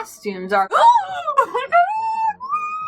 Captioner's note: gasping; laughing